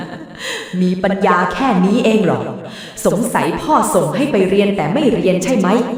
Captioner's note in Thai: เสียงหัวเราะ; เสียงหายใจอ้าปากค้าง